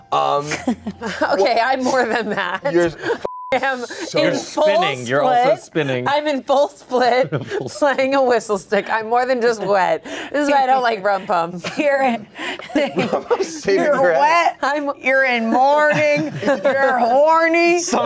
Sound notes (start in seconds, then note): 3.2 beep; 12.5 laughs